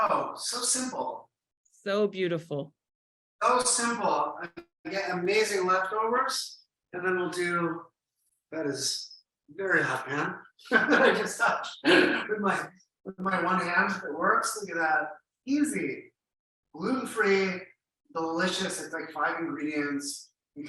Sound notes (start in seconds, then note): 10.6 chuckles